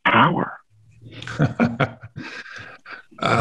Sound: chuckle

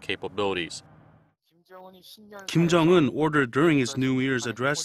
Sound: Korean

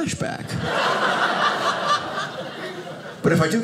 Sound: audience laughing

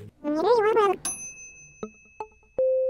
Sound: dinging

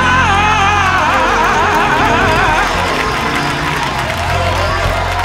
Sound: cheers and applause

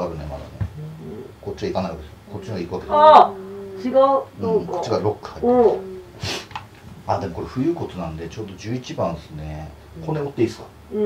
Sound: laughs

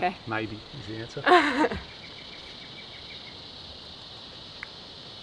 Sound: laughing

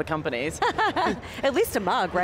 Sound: laughs

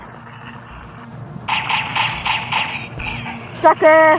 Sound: laser shots

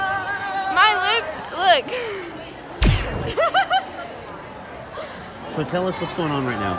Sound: laughs

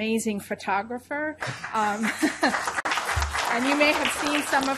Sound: applause

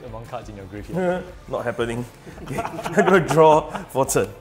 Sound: laughing

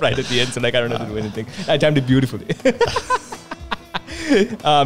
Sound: laughs

